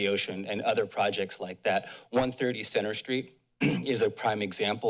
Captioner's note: clears throat